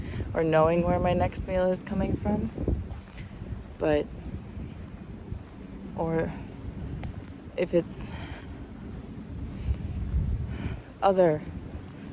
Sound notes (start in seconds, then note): 2.6 wind gusts; 7.4 sighs softly